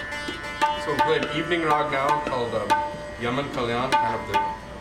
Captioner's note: non-english